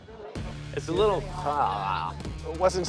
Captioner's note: imitates retching